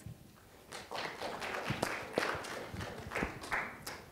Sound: applause

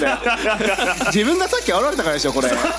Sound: laughs

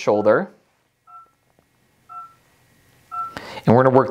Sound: laser dings

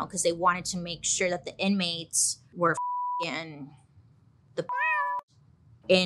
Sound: cat meows

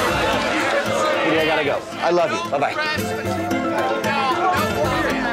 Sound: all Yelling

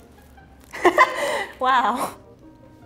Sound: laughing

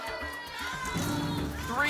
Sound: cheering

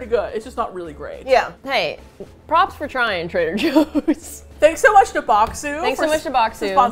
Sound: laughs

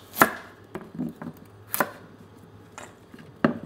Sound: knife chopping

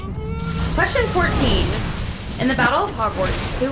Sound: explosion noise

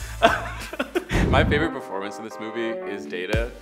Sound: laughs; air whooshes; lively instrumental music

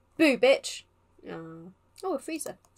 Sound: sounds of disappointment

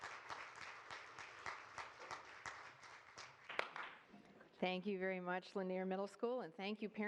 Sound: applause

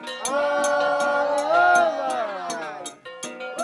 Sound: chanting

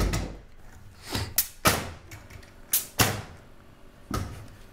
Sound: nail gun firing

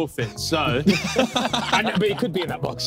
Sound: everyone laughing

